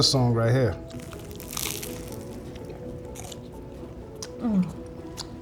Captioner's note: crunchy BLT crackling